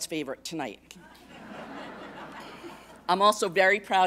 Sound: laughter

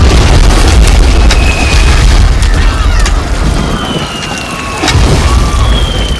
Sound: shouting and screaming

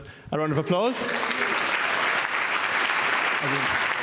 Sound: applause

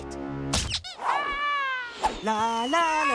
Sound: screaming

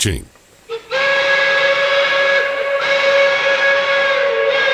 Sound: train horn blaring

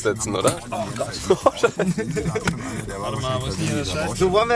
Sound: giggles

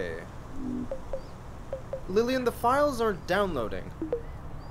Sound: soft error chimes; soft chime

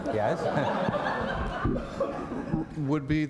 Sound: laughter

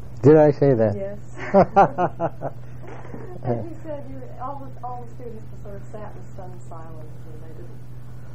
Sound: laugh

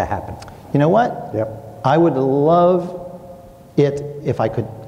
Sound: clicks tongue

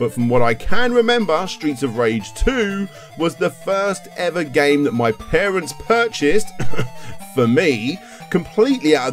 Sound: cough

